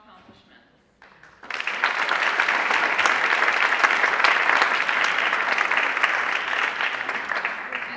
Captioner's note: applause